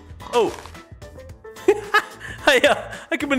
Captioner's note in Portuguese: Risos